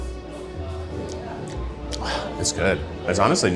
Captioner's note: gentle serene music; lips smacking